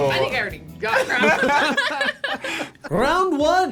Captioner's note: both laugh